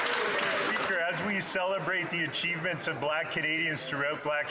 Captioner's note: some Applause